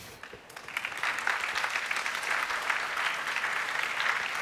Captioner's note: applause